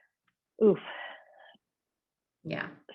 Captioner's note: sighing deeply